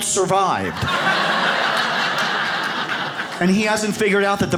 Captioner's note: audience laughs